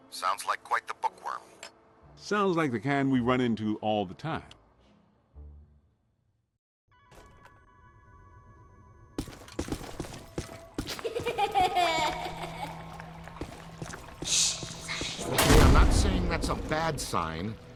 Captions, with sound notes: Sounds like quite the bookworm. Sounds like the kind we run into all the time. (child laughing) shush... someone coming... I'm not saying that's a bad sign...